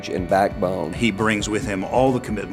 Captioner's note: voiceover